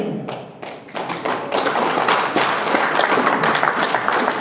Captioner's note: audience applauds